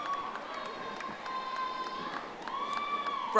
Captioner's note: audience applauding